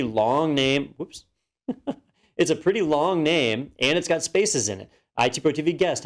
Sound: laugh

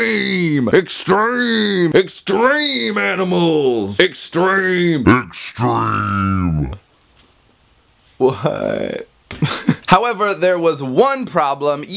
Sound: super low scary voice

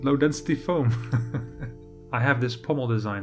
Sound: laughs

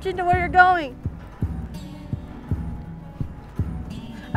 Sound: speaking in Navajo

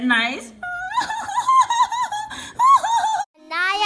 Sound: cries; voiceover

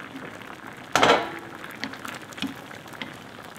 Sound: bubbling

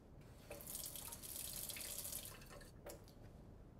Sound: water running

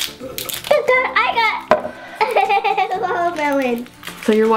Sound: giggles

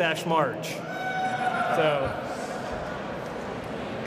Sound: cheering

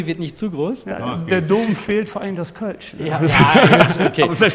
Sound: all laugh

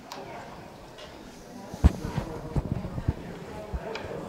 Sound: audience chattering

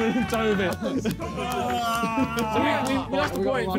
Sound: men cheering

